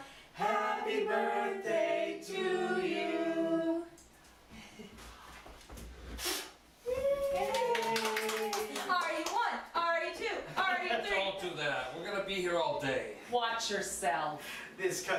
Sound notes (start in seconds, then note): 4.7 polite cheering; 6.0 sharp exhale